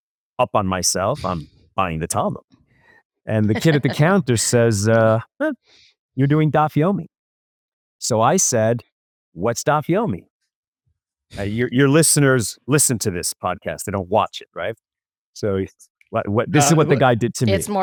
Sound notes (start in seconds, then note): 11.4 laughs